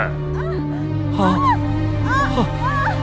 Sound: screams

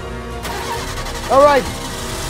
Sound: engine Start Sounds

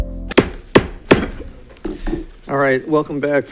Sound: gavel banging

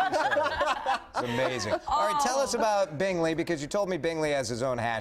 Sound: laughter

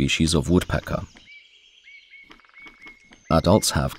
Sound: sounds of nature

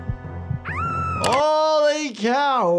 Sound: heart beating; Petunia screams; mouse clicks

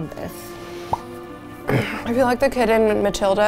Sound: sighing

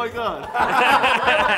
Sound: laughs

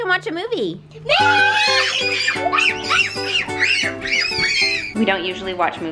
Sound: kids screaming excitedly

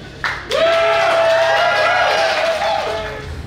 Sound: cheering & Clapping

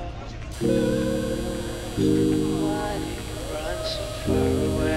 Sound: electric shaver buzzing

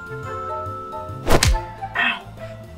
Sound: hands smacking

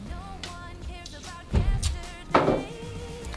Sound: SFX: Snip

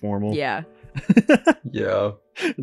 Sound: laughs

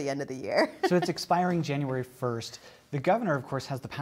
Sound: laughter

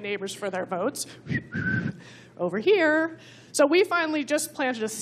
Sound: whistling

